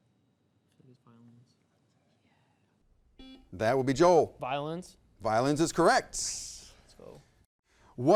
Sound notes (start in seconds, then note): 2.6 whispers; 3.2 buzzer beeps